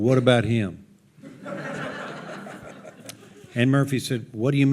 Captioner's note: audience laughing